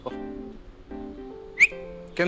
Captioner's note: platonic Whistle